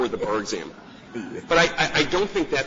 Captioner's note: laughter